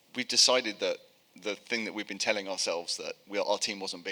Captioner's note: none